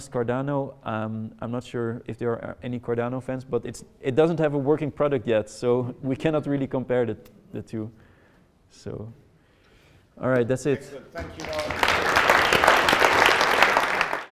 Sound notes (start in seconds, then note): 11.2 audience applauding